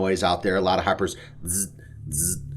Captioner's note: makes pulsing buzzing sound